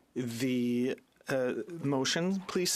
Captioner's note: speaking French